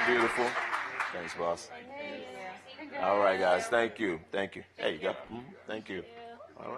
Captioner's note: applause